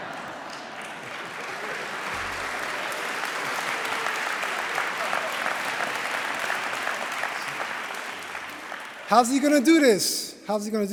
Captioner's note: laughter; applause